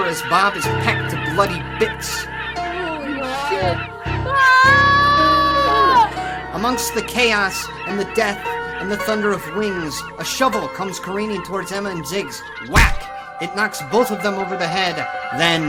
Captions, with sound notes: as Bob is pecked to bloody bits. - Holy Shit! (Emma screaming) - Amongst the chaos, and the death, and the thunder of wings, a shovel comes careening towards Emma and Ziggs. Whack! (Shovel thudding) It knocks both of them over the head.